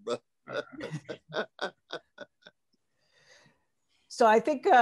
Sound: laughter

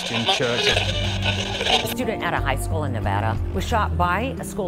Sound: radio tuning

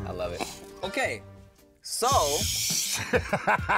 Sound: laughs

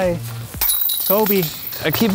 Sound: basket chiming

